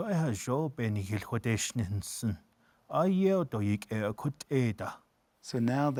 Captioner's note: speaking Navajo